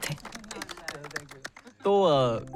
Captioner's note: applauses